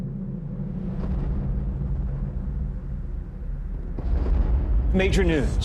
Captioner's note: distant explosions